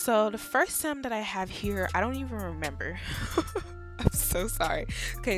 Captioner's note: chuckles